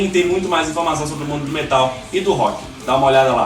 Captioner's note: in Brazilian Portuguese